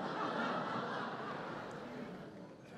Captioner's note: laughter